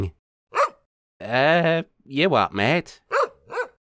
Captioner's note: bark; bark bark